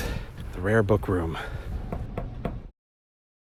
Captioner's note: knocking on door